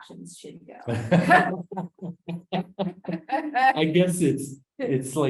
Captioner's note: laughs